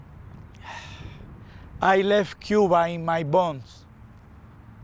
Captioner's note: sighs